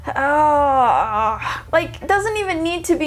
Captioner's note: groaning anxiously